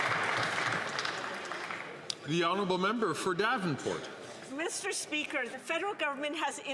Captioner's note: some Applause